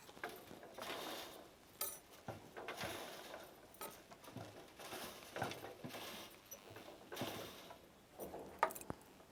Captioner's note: rubbing noise of threads going into the loom